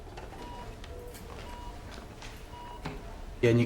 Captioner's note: sound of slow heartbeat on heart rate monitor